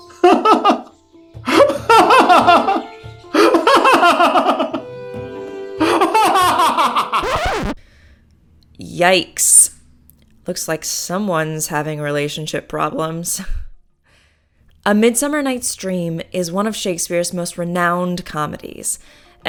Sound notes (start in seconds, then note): 0.2 laughing; 7.1 record Scratch